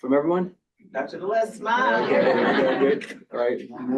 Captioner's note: crowd laughing